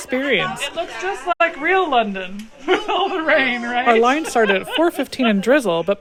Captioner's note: laughs